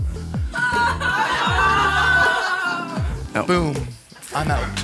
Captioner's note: laughing